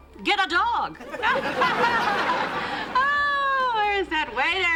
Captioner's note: laughter